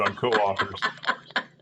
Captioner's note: laugh